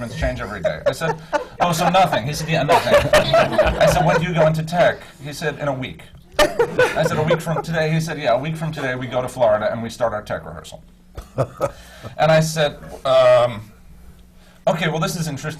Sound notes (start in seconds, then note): 0.0 laughs; 3.2 laughter; 11.2 laughs